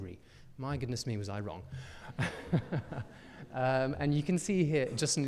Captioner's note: chuckles